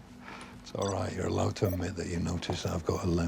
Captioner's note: chuckles